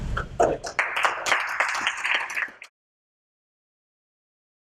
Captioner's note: applause